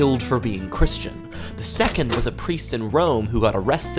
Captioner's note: door clicks